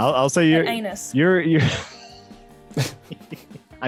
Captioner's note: laughs